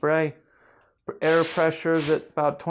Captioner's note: loud spraying